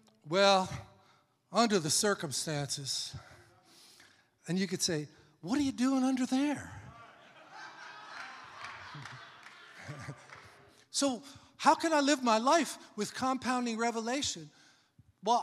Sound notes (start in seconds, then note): 6.8 congregation laughing